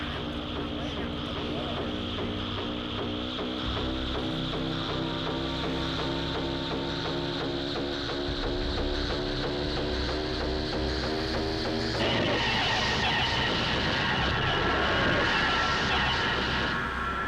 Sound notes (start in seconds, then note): 2.2 humming rises in pitch